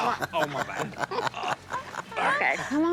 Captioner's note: Willie laughing